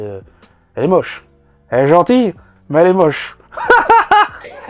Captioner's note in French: rires un peu taquins